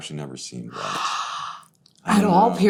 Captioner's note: Rosario gasps